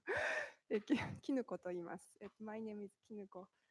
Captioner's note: speaking japanese